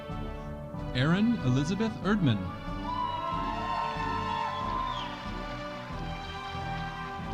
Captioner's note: audience cheering